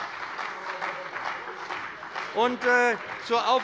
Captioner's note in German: Beifall bei dem BÜNDNIS 90/DIE GRÜNEN und der CDU